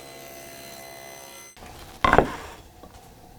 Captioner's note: high-speed saw whirring; wood clunks